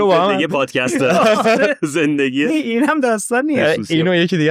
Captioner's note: laughs